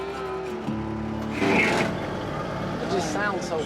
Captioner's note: gears grinding